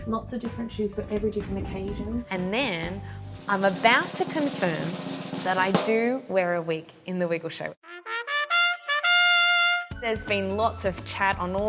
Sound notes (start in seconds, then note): 3.2 drumroll; 7.8 bells chiming